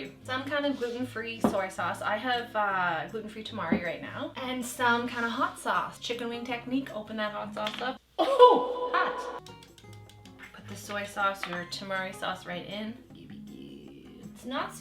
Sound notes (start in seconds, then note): 8.2 coughs